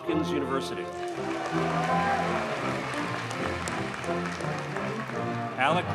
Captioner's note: audience cheers and applauds